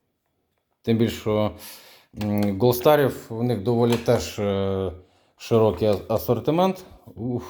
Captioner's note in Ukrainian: сопіння